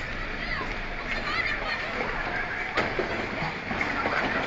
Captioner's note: people screaming